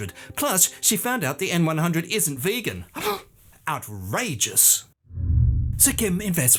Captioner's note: gasp